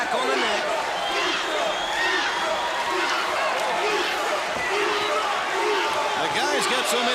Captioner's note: crowd cheering